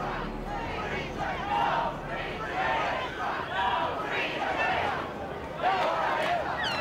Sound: crowd yelling

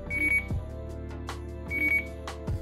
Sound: beep; beep

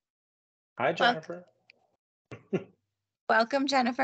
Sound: laughing

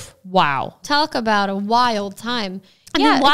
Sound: none

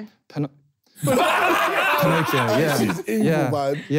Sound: laughing

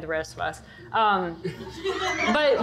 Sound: audience laughter

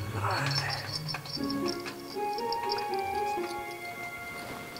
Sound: faint jingling

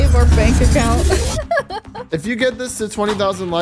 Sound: chuckles

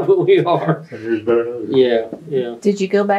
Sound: laughter

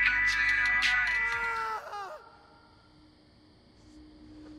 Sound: music volume lowers; man screams

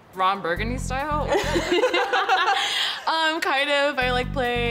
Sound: both laughing

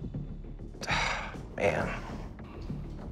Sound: tense music playing; sighs

